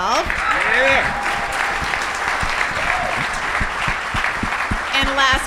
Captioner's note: audience cheers